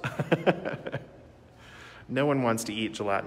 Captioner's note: laughing